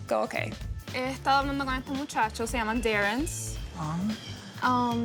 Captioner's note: speaking Spanish